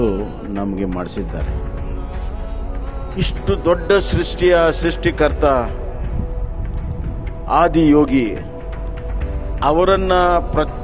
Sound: speaks in Kannada - not transcribed

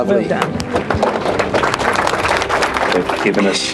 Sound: applause

